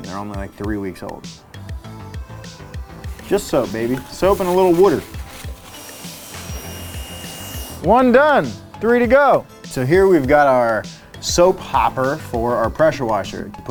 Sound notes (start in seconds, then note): 5.6 washer whirring; 6.3 gentle music